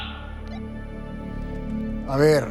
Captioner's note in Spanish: Bip